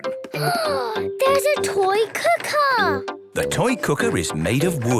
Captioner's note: gasps